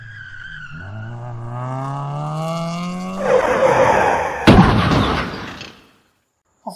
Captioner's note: engine racing, squealing tires, crashing